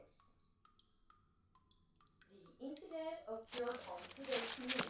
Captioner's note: water dripping in background